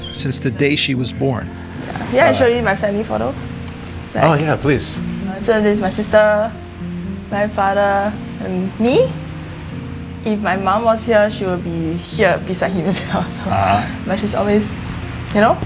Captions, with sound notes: since the day she was born. - Can I show you my family photo? - Oh yeah, please! - So there's my sister, my father, and me. If my mom was here, she would be here, beside him as well, so (laughs)... But she's always, you know?